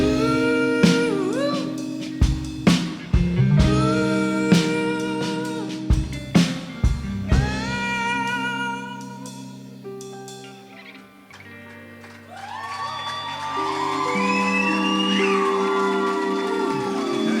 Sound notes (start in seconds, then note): 11.3 audience applauding and cheering